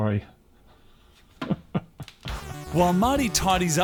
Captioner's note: laughs